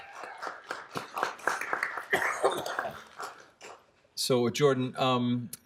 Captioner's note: applause